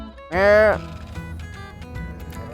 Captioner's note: immitating sheep noises